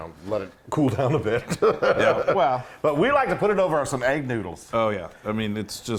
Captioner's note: laugh